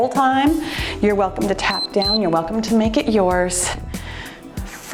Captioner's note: timer beeps